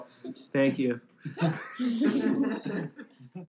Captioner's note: laughter